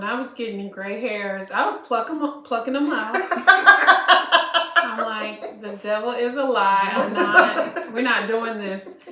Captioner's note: laughter